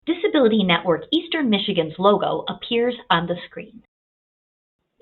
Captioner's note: voiceover